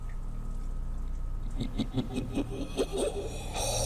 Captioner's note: ghost laughing; threatening ghost mumbles